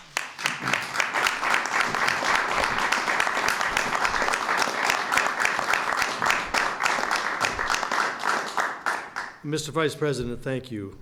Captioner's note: applause